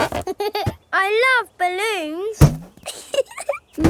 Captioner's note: chuckles